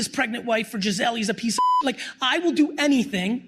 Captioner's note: beep